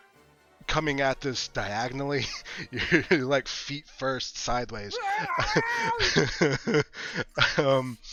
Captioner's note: screaming